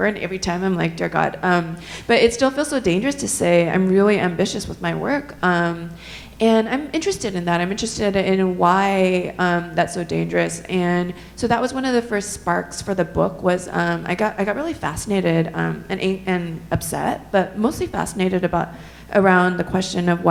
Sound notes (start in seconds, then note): none